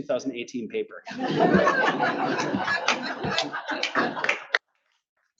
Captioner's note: audience laughs